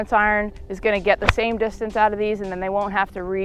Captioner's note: golf ball smacks